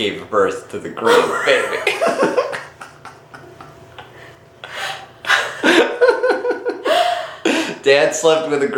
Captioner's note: both burst out laughing